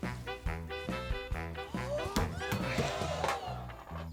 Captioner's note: audience gasps